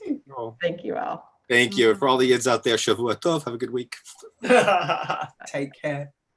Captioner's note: foreign language 01:34:06